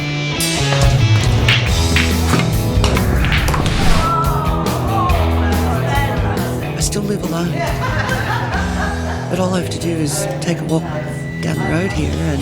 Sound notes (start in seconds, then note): 0.7 sounds of snooker balls hitting each other